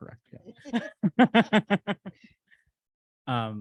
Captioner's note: laughter